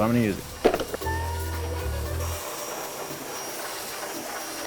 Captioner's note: washer whirring